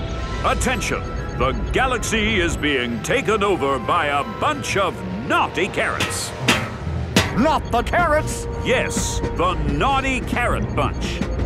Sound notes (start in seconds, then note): none